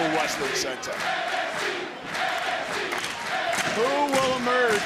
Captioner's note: crowd chants "nxt"